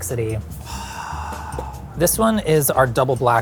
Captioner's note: sighs